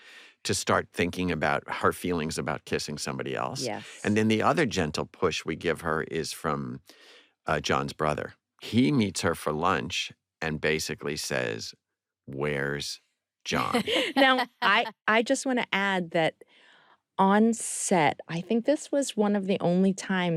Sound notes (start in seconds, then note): 13.5 laughter